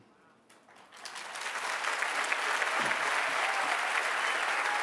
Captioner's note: applause